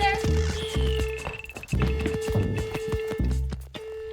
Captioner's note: alarm blaring